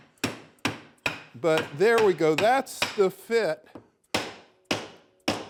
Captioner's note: hammer hitting